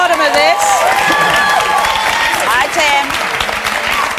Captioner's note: audience cheers and applauds